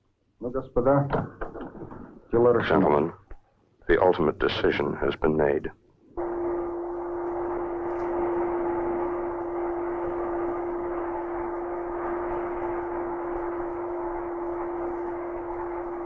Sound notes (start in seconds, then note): 0.2 Marshall speaking in Russian; 6.0 machinery whirring